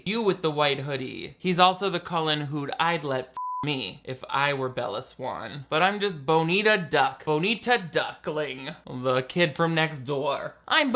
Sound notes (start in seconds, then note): 3.3 beep